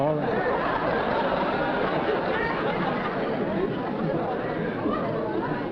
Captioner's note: laughter